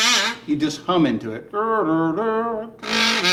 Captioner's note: imitates kazoo sound; kazoo sound